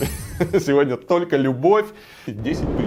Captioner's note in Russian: смех